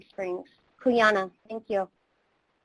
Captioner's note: speaking in foreign language